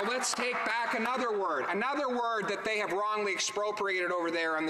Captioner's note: some Applause